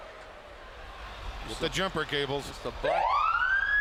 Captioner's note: applause